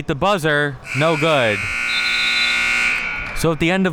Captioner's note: buzzer sounding